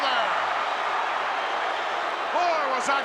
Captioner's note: crowd shouting